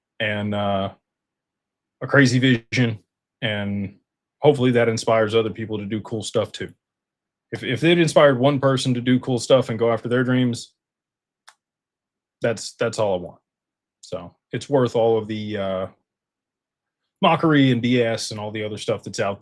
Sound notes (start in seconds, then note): none